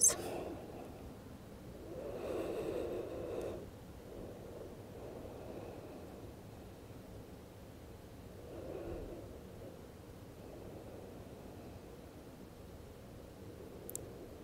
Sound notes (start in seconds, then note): 2.0 breathing heavily